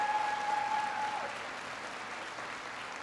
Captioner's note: applause